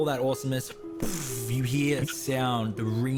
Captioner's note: bbvvvvvvffff